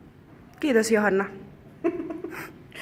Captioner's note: laughter